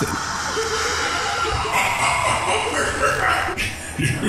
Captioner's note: maniacal Laughter